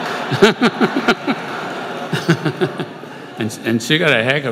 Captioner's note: laughter